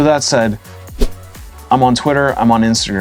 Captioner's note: whoosh